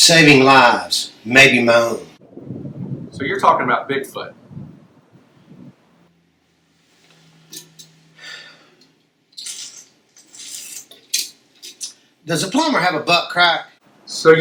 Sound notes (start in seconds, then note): 7.5 flask clanks; 8.2 Buck sighs; 9.3 Buck slurping